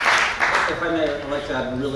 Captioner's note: applause